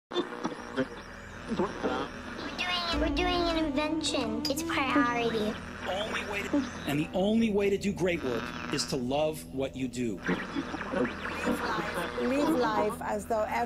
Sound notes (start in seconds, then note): 0.1 radio tuning